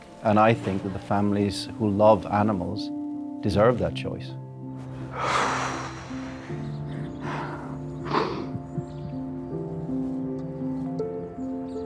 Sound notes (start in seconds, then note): 5.1 exhaling; 7.0 gentle poignant music